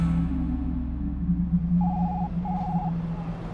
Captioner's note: phone ringing